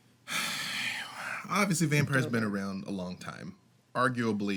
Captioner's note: sighs